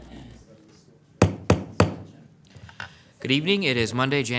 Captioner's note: gavel pounding